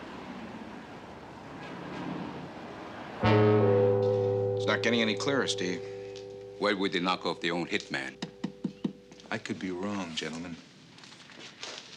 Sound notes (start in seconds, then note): 8.2 tapping on desk